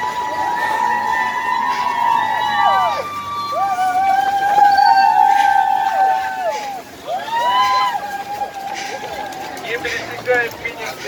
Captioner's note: applause